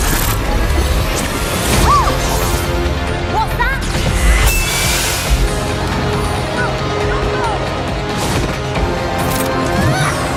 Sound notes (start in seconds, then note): 6.3 crowd